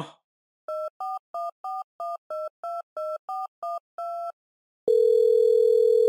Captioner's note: phone dialing